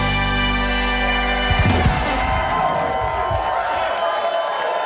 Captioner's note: audience cheers